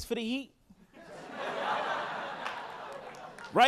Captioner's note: audience laughing